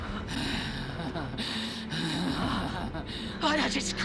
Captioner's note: laughs maliciously